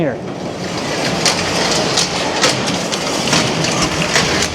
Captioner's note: machinery rumbling